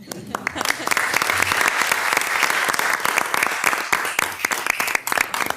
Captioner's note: participants clapping; participants laughing